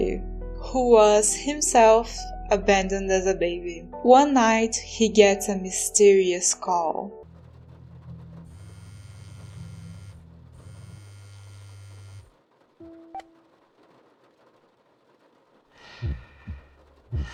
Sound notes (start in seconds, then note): 8.3 phone buzzing